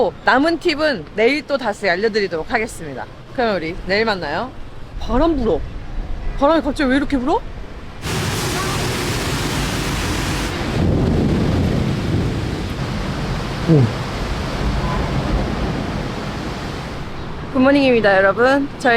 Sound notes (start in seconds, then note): 8.2 immediately heavy rain poured down; 13.2 thunderstorm struck all night